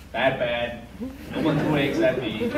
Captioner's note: audience laughs